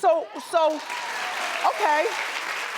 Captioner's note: cheering and applauding